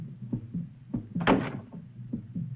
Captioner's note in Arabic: يطرق الباب